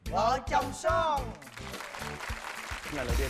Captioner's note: applause